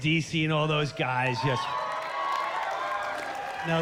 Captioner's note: cheers and applause